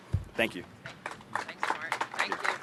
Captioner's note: applause